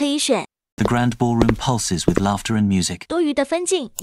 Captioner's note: like footstep sounds